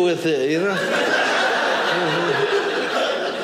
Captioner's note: audience laughing